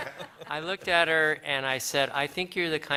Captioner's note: laughter